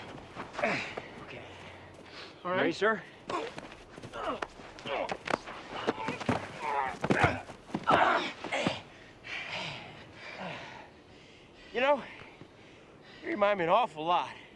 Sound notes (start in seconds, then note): 4.0 grunting; 9.0 men Breathing Heavily